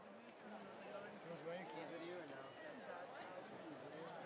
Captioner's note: chatter